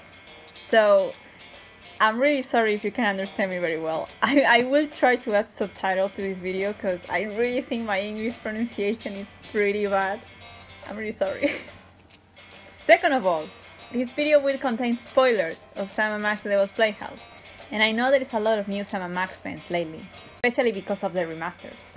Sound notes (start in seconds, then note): 4.2 laughs